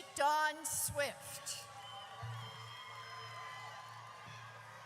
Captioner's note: audience cheers